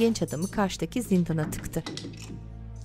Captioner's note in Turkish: Kilitleme sesi